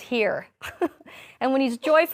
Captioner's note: chuckling